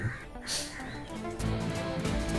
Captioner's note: Sighs